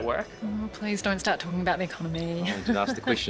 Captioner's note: laughs